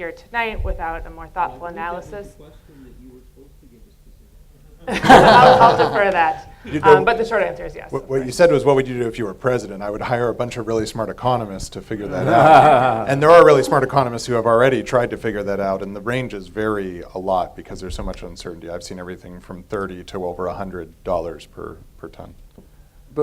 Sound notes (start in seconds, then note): 4.8 laughter